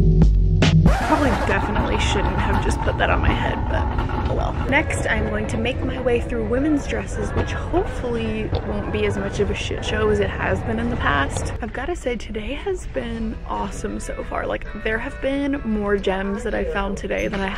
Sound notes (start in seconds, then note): 0.8 record scratch